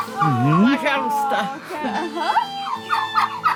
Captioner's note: speaking Armenian